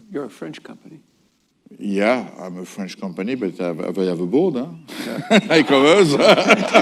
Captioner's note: laughter